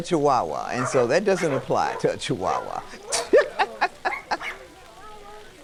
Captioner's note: laughs